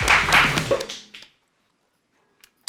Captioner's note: the end of the applause